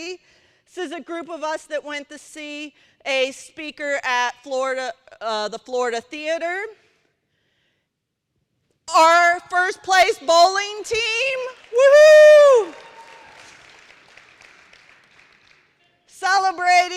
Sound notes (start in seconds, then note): 11.5 cheering